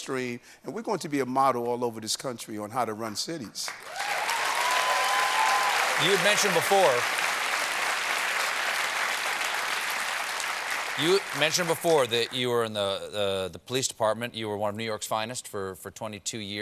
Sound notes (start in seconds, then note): 3.6 applause